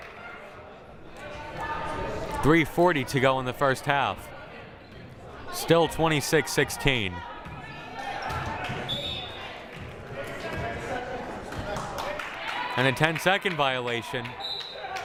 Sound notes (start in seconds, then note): 8.9 whistle blaring; 11.5 hands clapping; 14.4 whistle blaring